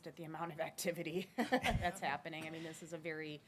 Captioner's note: laughs